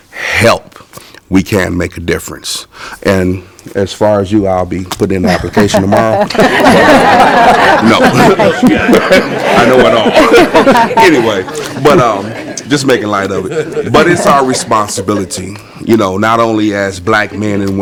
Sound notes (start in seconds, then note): 11.6 laughing